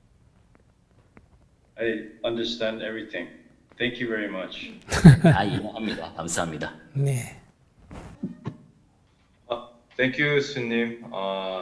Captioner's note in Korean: 스님 웃음